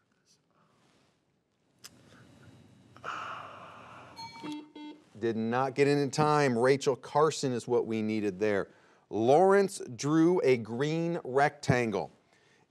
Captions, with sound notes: (alarm clock ringing) (buzzer beeping) Did not get it in time. Rachel Carson is what we needed there. Lawrence drew a green rectangle.